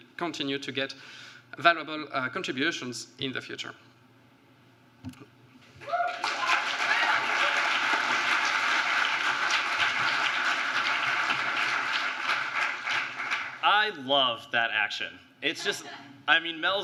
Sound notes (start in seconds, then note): 5.8 applause